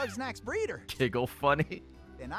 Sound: laughs

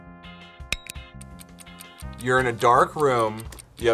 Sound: clock ticks

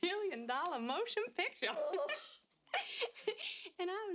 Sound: giggles

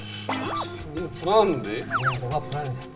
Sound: nervous

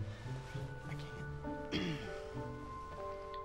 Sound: clears throat

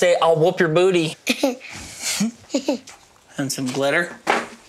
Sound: laughs

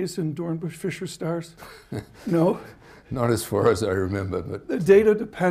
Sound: laughs

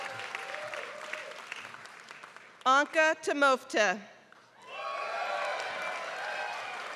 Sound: applause; applause

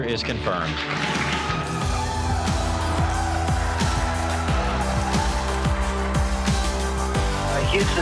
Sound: cheering

